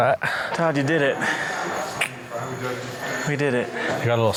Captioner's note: clicks his tongue